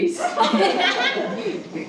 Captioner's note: laughing